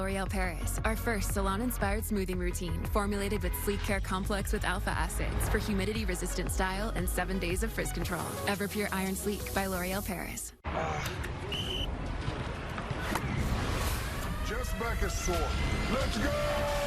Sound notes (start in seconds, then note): 11.4 whistle blows